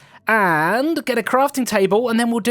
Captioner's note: none